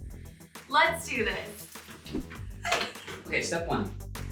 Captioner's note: laughs